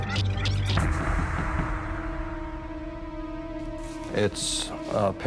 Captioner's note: knocking